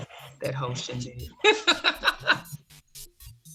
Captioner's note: laughs